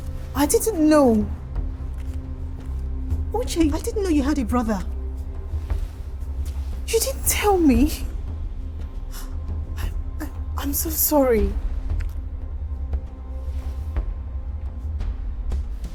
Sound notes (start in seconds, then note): 11.6 sobs; 12.5 tense dramatic music